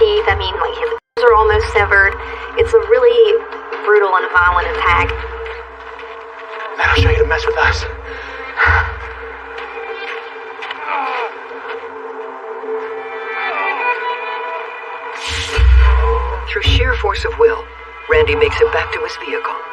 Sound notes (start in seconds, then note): 10.9 groaning